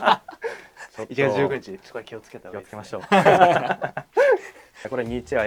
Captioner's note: laughs; laughs